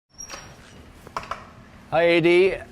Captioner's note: door creaks